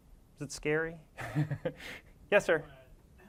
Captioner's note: laugh